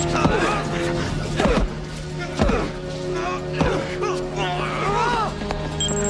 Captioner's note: grunts; thuds